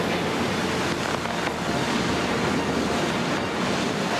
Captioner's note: ice cracking